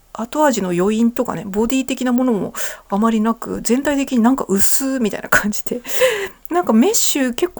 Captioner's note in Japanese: 笑い